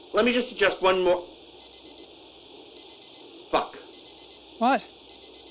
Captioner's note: beepbeepbeepbeep